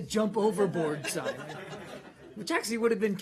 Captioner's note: laughter